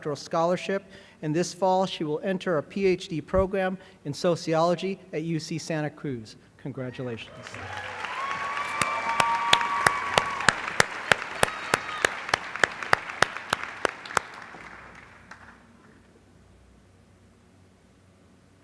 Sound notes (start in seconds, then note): 7.3 applause